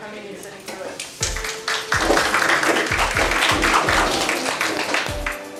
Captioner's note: applause